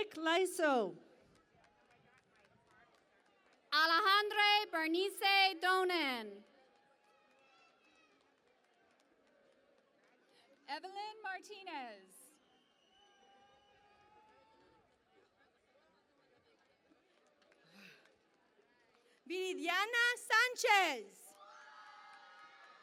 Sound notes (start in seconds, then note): 6.4 cheering and Applause; 12.7 cheering and Applause